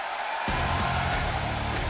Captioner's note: crowd cheering